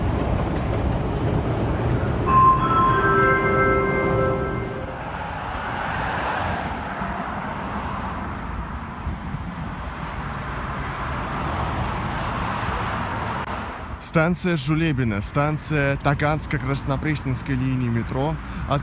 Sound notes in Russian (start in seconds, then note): 0.0 прибытие поезда на станцию; 0.0 сигнал о прибытии поезда